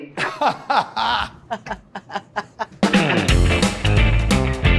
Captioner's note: laughs; upbeat '50s music plays